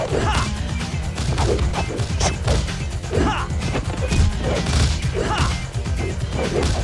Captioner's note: blows thudding; funky upbeat music; fighters grunting